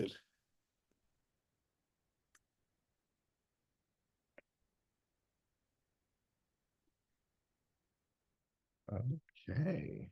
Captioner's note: silence